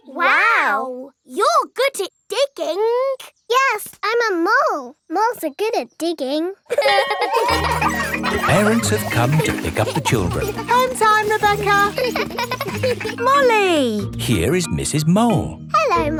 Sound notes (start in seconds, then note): 6.7 laughing